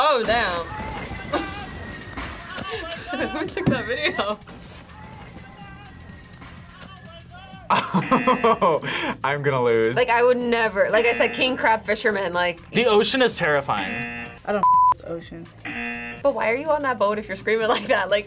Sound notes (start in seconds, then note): 2.4 laughs; 7.6 laughs; 8.1 buzzer rings; 13.8 buzzer rings; 15.6 buzzer rings